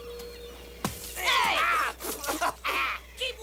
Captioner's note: sputtering